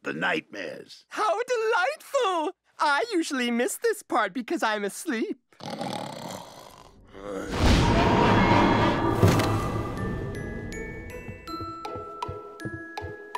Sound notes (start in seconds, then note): 5.6 snores; 7.5 thud; 7.7 whooshing, train sounds